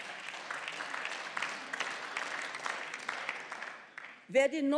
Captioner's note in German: Beifall